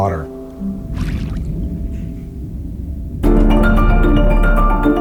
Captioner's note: water splashing; piano music